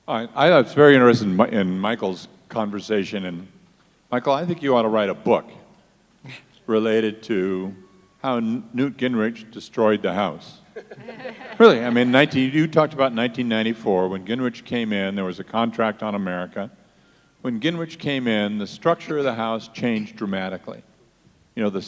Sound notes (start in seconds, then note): 10.7 panelists laugh